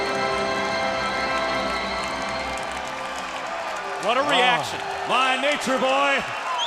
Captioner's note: crowd cheering